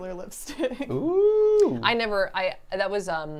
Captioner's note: laughs